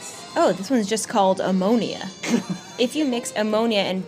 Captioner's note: laughs